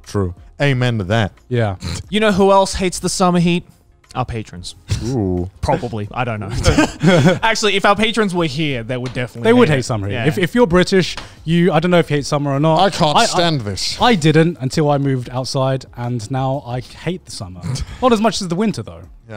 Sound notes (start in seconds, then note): 6.5 everyone laughs